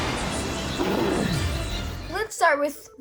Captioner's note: thrilling music; wings zing; Charizard growls